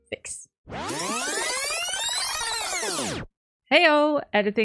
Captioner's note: rewind sounds